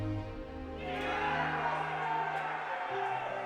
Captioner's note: players yelling